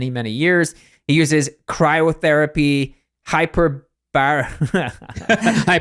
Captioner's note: laughs